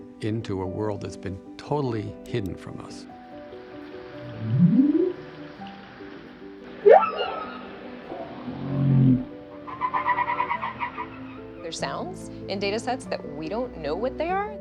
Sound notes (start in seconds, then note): 4.2 whale bellows; 6.8 whale shrieks; 8.1 whale groans; 9.6 whale chatters